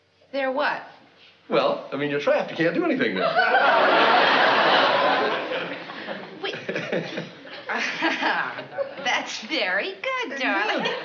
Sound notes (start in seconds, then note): 8.0 laughing